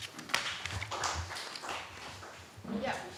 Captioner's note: applause